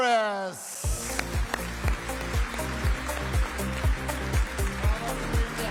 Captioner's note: audience applauding; bright music